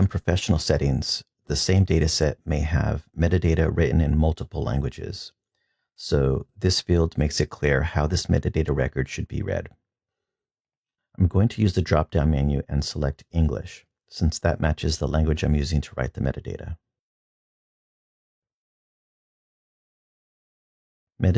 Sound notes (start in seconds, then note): 13.5 English